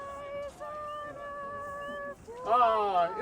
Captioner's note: muffled background chattering